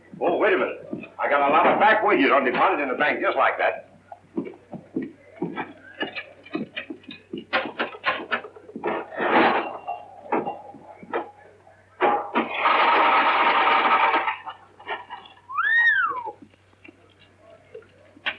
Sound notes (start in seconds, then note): 12.0 rattling; 15.4 whistle